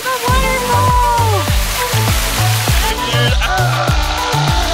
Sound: splashing; screams

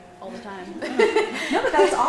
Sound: chuckling

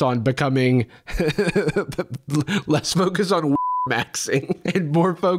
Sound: laughs

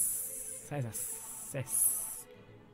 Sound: sessssss; ssssssssssssss

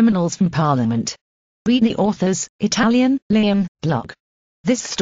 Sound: Italian

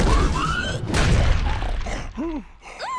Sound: slam

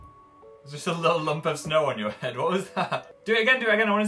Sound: laughing

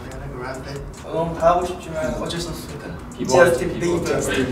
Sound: speaking Korean

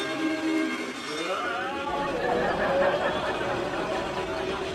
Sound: Buzz yelling; audience laughing

